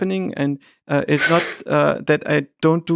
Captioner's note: Lex chuckles